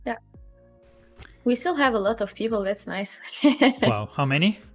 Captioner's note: laughs